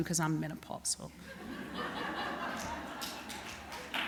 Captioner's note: laughter